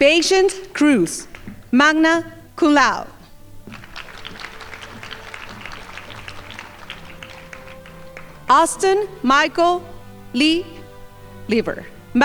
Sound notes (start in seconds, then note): 3.6 crowd applauding